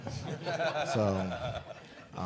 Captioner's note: laughter